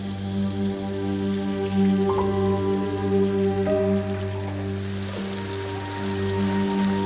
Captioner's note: somber music continues; water gushing